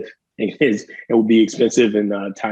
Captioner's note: chuckling